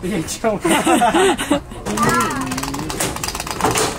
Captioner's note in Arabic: الكل يضحك